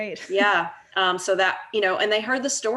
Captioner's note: laughs